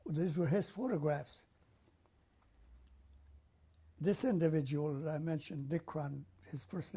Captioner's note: pauses for 3 seconds